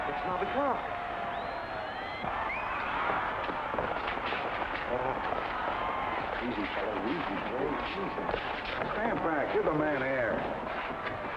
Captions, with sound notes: - It's Knobby Clarke. (men rustling) - Easy fella, easy. - Stand back, give the man air.